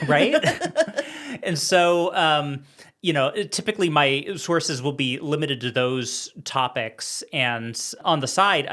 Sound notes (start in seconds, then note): 0.0 laughing